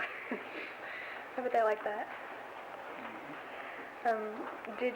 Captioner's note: laughs